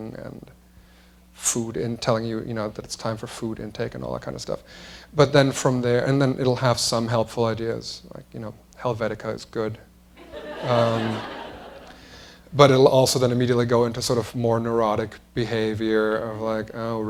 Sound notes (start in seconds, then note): 10.2 laughter